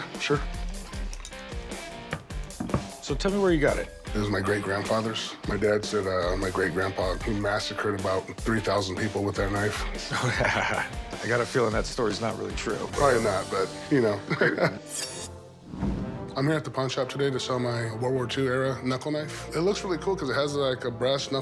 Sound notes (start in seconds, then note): 9.8 laughs; 14.2 laughs